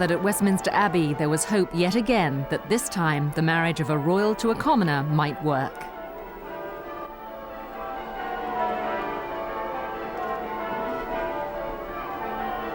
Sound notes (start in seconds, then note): 7.8 church bells